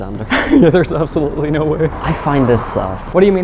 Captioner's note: laughs